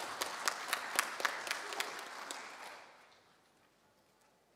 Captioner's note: applause